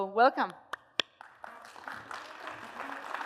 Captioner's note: applause